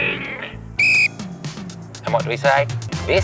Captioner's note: blows whistle